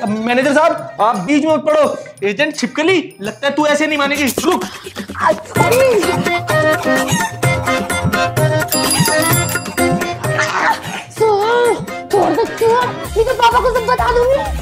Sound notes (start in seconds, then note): 4.7 quarreling